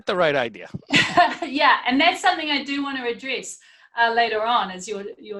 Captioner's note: laughing